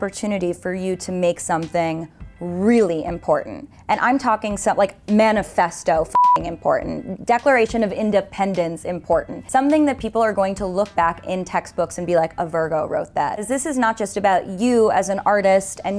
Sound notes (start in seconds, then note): 6.1 beep